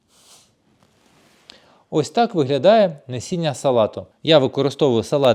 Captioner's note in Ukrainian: сопіння